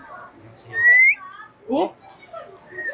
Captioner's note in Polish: zagwizdał